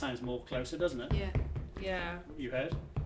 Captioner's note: feet stomping